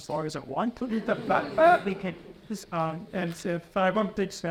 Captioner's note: audience laughs